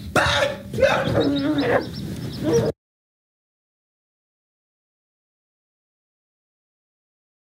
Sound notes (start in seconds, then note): 0.1 grunts